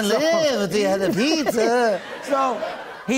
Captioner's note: normal voice